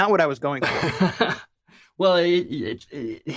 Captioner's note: laughs